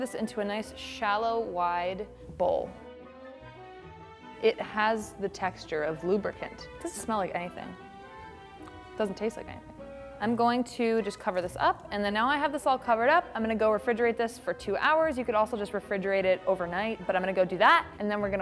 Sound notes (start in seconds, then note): 8.6 smacks lips